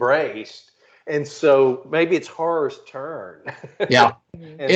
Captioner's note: laughing